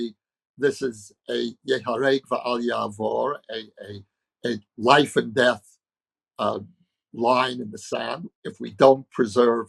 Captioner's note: speaking hebrew